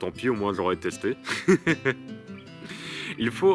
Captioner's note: laughs